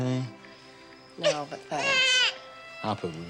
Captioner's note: Rudy cooing